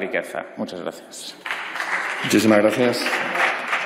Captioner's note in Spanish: Aplausos